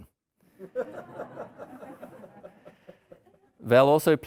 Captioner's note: audience laughing